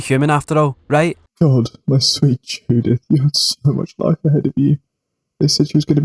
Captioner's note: sobbing